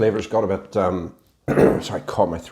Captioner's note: cough